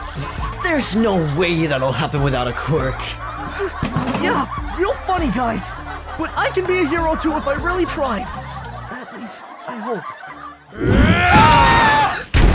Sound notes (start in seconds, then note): 8.2 says to himself; 10.7 growling and screaming